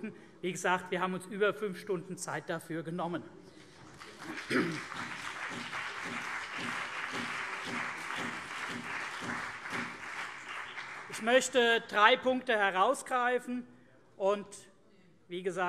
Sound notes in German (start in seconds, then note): 3.8 Beifall CDU und BÜNDNIS 90/DIE GRÜNEN